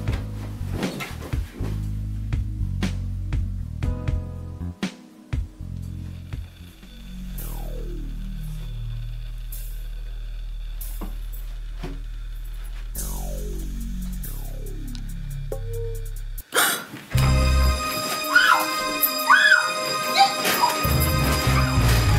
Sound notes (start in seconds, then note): 0.2 gentle music; 7.3 dramatic music; 18.2 Renee screams